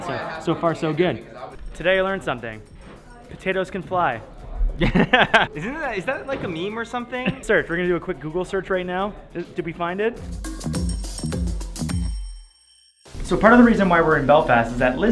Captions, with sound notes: So, so far so good. Today, I learned something. Potatoes can fly. (laughing) Is that, like, a meme or something? Search. We're gonna do a quick Google search right now. Did we find it? (rhythmic percussive music) So, part of the reason why we're in Belfast is that